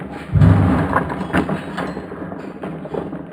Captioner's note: none